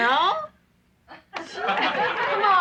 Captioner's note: laughing